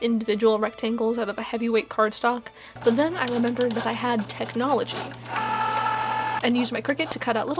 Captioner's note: whirrrrr